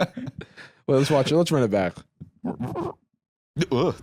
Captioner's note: both laughing; rewinding noise